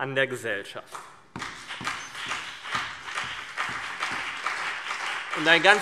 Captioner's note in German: Beifall CDU und BÜNDNIS 90/DIE GRÜNEN